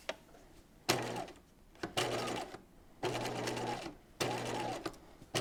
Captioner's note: sewing machine whirs